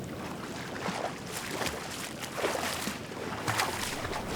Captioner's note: water splashing